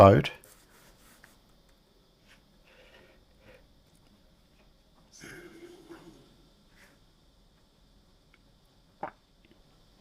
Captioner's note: silence